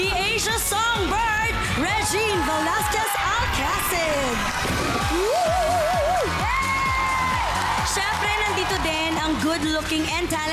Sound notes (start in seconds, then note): 5.1 audience cheering